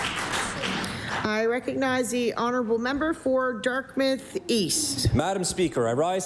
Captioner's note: applause